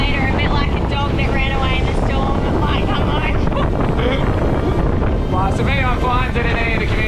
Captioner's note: laugh